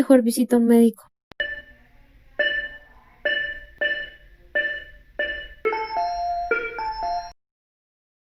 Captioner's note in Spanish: sonido frecuencia cardiaca